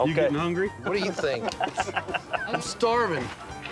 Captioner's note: chuckling